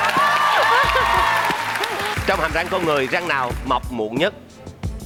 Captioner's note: yelling and clapping